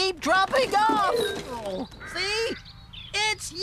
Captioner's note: clunk!